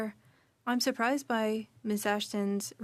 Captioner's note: speaking French